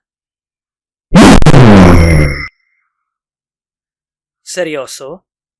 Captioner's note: boom